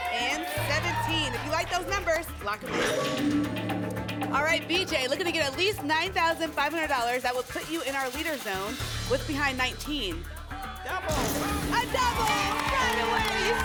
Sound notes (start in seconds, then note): 2.8 lock sound